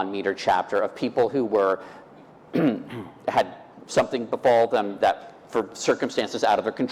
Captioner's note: clearing throat